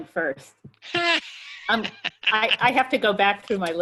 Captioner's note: laughs